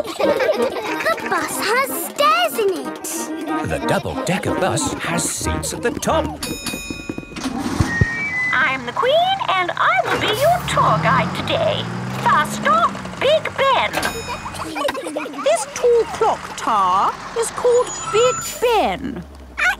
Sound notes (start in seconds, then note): 0.0 kids laughing; 6.4 bell dings; 13.2 kids giggling